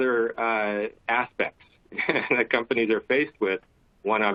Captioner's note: laughter